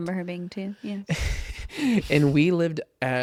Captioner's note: laughs